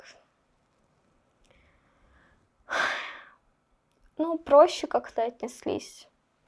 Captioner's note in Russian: вздыхает